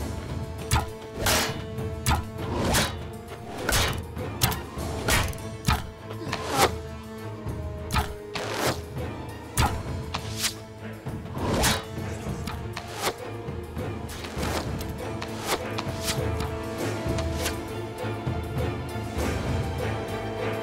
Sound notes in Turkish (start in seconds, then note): 0.3 Ok fırlatma sesi; 13.5 Müzik - Gerilim